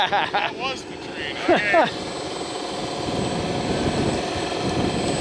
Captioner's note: dozer tracks squeaking